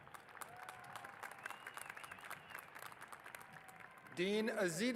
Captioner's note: applause